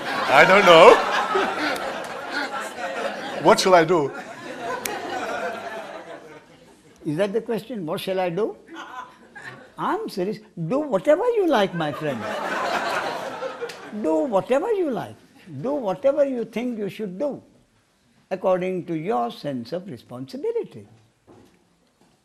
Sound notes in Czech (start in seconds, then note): 11.8 smích